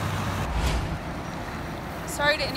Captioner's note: logo whooshing